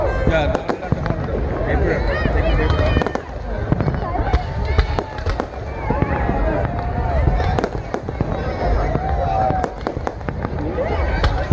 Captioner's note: shouting happy new year and exchanging new year wishes